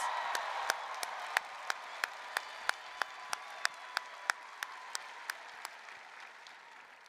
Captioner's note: applause, music